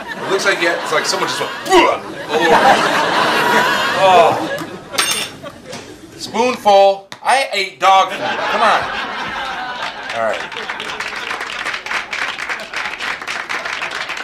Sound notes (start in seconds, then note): 2.6 audience laughs; 7.9 audience laughs; 9.2 audience applauds lightly